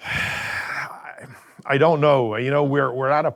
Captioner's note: sighing